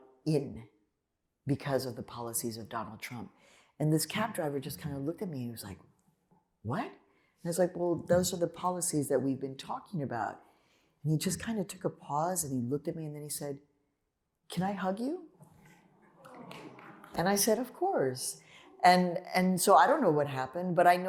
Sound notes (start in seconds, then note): 16.2 applause